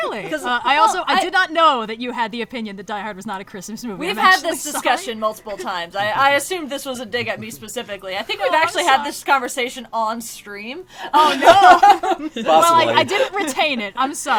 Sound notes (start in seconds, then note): 5.5 laughs; 11.1 laughs